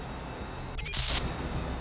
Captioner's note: electronic beeping